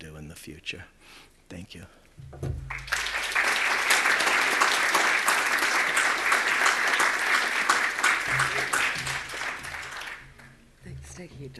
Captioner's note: audience applause